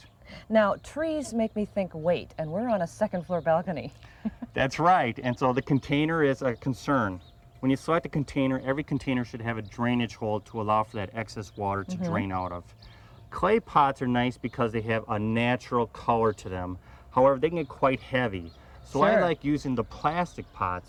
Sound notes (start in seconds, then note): 4.1 laughs